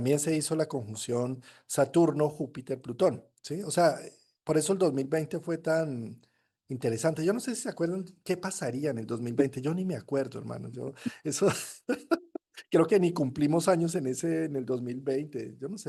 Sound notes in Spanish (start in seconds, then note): 11.1 risas